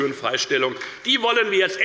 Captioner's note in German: Beifall des Abg